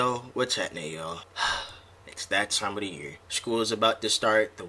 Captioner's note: sigh